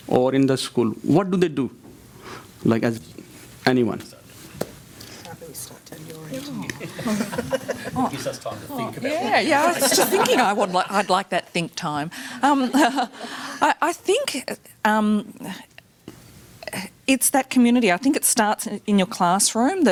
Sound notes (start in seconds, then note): 6.8 laugh loudly